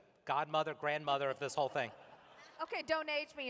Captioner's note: laughter